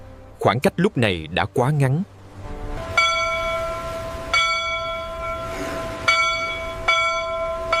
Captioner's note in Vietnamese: chuông